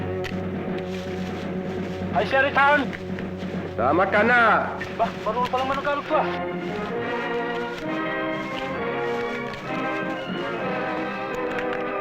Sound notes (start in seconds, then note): 1.6 non-english speech